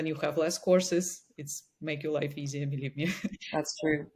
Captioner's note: chuckles